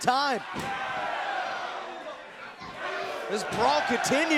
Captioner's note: crowd cheering